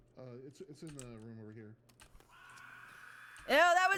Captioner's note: camera click and ghost scream